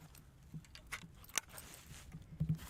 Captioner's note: gun loads